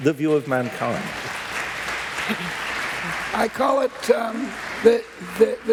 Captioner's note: applause